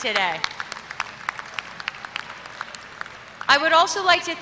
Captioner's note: applause